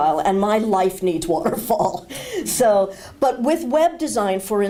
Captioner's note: laughter